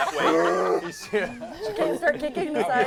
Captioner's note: groan